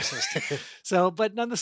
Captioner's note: laughing